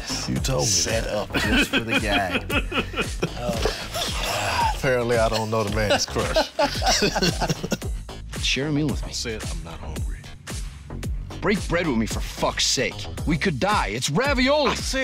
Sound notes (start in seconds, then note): 1.2 laughing; 7.1 both laughing